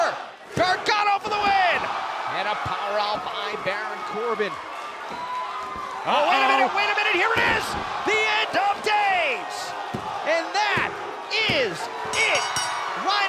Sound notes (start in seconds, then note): 5.1 crowd chatter